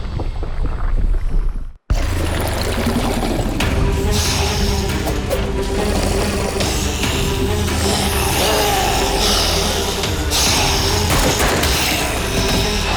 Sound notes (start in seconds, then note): 4.3 zombies growling; 9.1 dramatic music